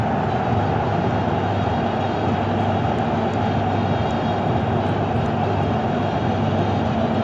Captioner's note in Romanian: Aplauze